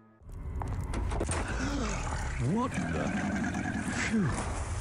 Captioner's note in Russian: ахает